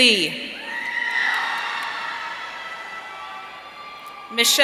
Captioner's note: audience cheering